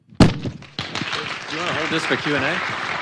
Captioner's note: audience applauding